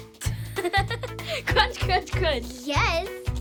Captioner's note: laughs